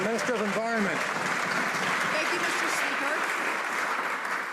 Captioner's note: some Applause